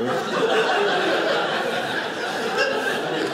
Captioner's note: audience laughing